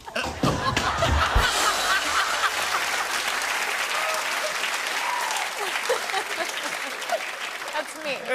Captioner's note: laughter and applause